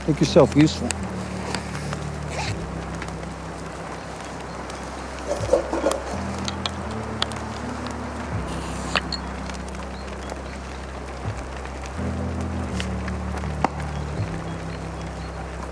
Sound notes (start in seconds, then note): 1.7 fire crackling; 1.7 gentle music